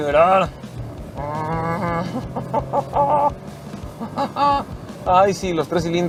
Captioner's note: grunting in excitement